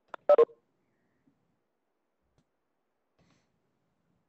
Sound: beeping

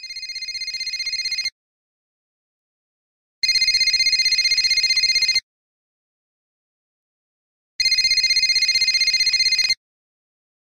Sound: phone rings

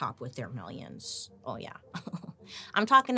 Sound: laughing

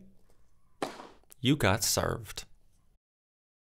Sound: object bangs

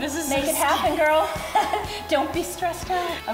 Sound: laughing

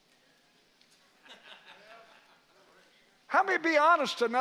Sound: congregation chuckles

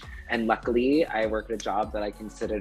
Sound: hands slapping

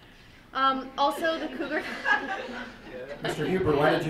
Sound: group laughing

